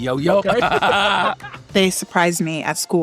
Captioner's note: all laughing